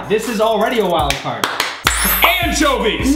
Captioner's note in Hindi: ताली